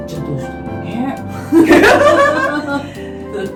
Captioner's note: laughs